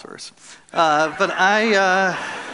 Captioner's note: laughter